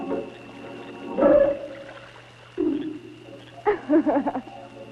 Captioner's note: water splashing; witch laughing